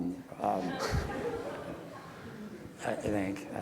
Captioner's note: audience laughs